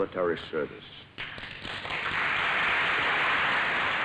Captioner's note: applause